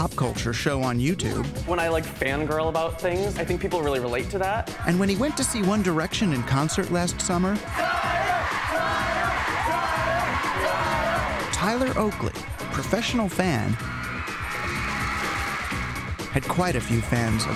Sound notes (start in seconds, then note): 10.2 crowd chanting "Tyler!"